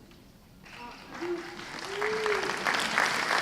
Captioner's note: applause